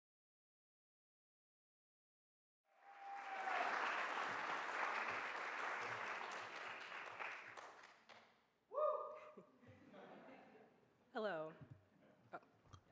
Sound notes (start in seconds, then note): 2.7 audience applauding and cheering; 9.8 audience laughing